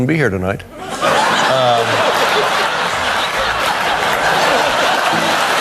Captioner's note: applause and laughter